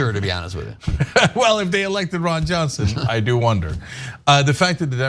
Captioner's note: laugh